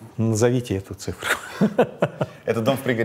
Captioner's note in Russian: смеется